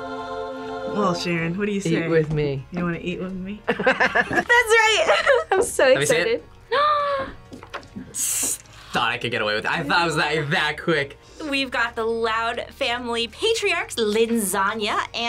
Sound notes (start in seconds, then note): 3.6 both laugh; 8.7 gasps